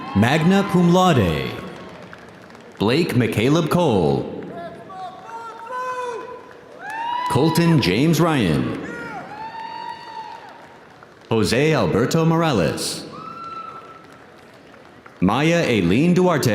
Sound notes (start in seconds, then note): 6.6 audience applauding; 6.6 audience cheering